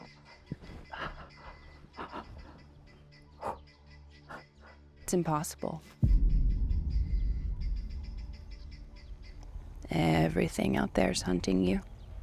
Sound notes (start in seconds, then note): 0.0 Arawn breathes uneasily